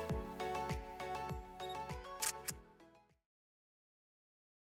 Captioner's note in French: Bruit d'appareil photo